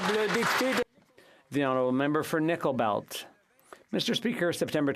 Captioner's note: some Applause